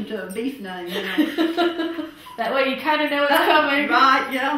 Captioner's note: laughter